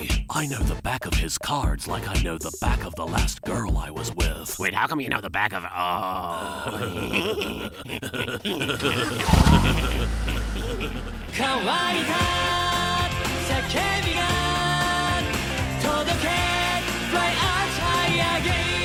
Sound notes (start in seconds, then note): 6.5 both chuckling